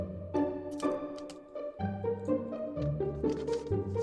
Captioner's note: paper crinkles